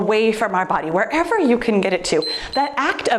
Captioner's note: timer beeps